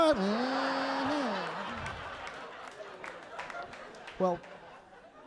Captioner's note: audience laughing